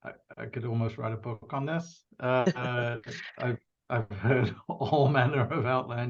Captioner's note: laughs